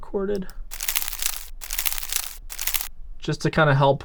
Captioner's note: palm fronds crunching